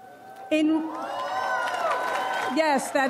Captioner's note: audience cheers